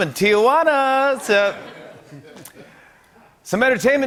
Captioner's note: laughter